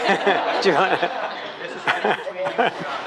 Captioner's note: laughs